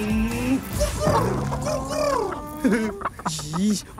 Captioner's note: making cooing noises